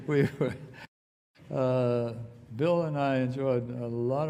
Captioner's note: laughter